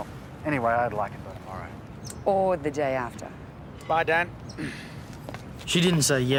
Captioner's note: coughs